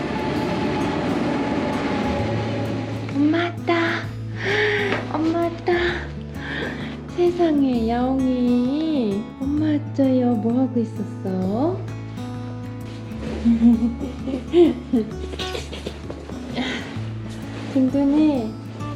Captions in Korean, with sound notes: 엄마 왔다~ 헉~ 엄마 왔다~ 세상에, 야옹이~ 엄마 왔어요. 뭐하고 있었어? (웃음) 디디~